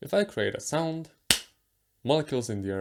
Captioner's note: clap